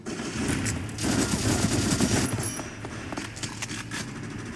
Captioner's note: guns firing